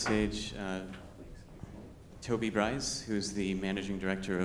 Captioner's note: speaks faintly